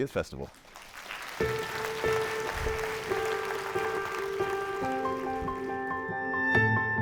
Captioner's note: attendees applauding; lighthearted music